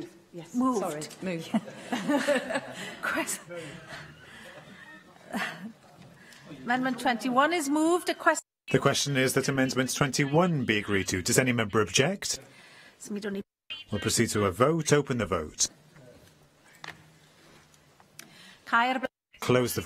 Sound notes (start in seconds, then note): 5.6 laughter